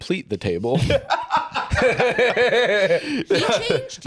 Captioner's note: both laugh